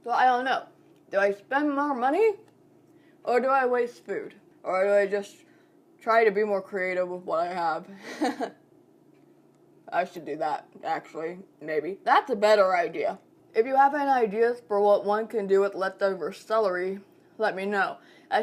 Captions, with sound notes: So I don't know. Do I spend more money or do I waste food? Or do I just try to be more creative with what I have. (laughing) I should do that actually, maybe. That's a better idea. If you have any ideas for what one can do with leftover celery, let me know.